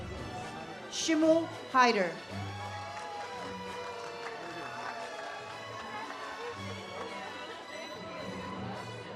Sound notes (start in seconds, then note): 2.3 audience cheers